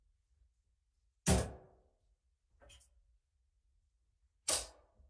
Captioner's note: object slams